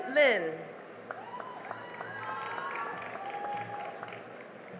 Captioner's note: cheering and applause